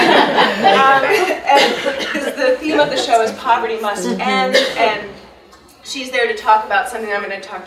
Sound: audience laughing

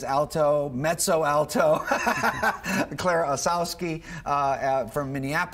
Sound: laughing

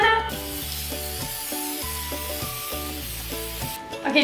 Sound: can spraying

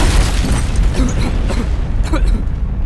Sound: Blue coughing

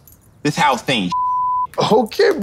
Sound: beep

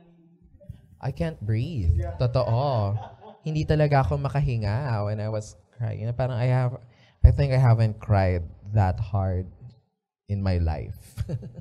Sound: chuckles

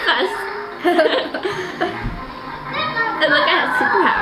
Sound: laughing

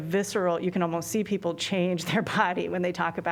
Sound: laughter

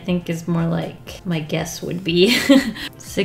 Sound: laughs

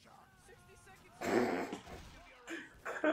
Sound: suppressed laughter

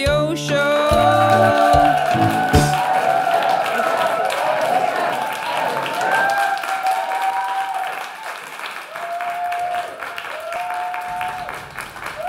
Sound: applause

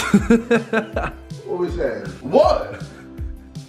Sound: laughing

